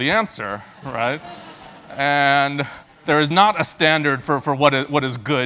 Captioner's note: laugh